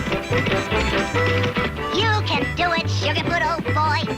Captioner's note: hooves racing